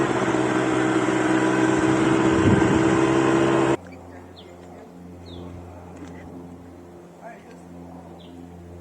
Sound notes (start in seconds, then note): 1.3 engine running